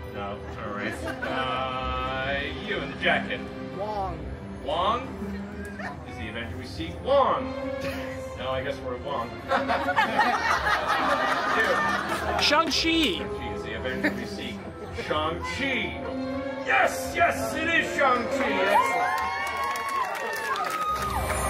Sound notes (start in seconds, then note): 9.4 guests laughing; 18.1 guests cheering and applauding